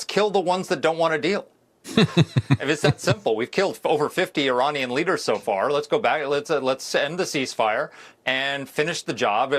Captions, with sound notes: kill the ones that don't want a deal. (Laughs) And it's that simple. We've killed over 50 Iranian leaders so far. Let's go back, let's end the ceasefire and finish the job.